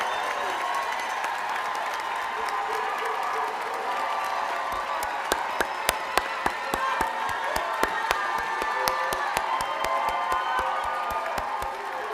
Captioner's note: cheers and applause